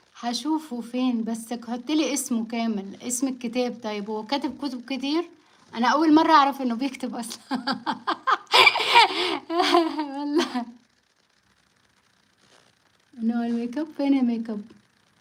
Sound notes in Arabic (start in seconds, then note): 7.3 ضحك